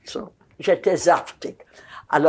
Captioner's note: yiddish